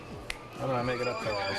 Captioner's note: fans scream